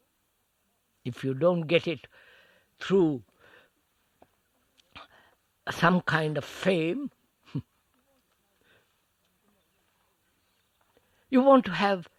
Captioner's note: laughs